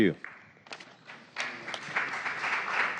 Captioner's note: applause